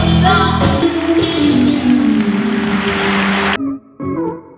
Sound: audience applauds; upbeat music

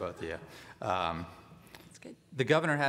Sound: laughing

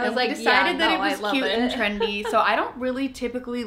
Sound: laughs

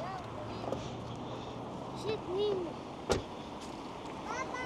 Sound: children talking

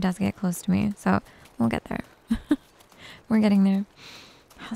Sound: giggles

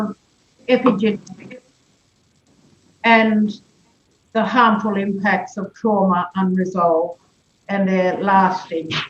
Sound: audio distorted

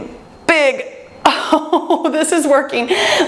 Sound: chuckles

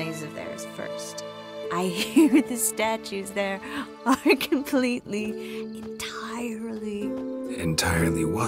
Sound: slurring; giggling; whispering

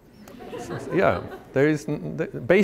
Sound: laughter

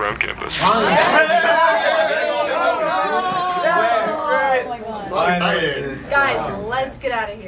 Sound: cheers and celebration

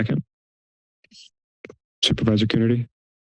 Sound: silence

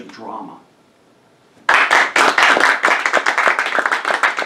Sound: applause

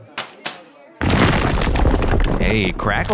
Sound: blocks crumbling; bags dropping

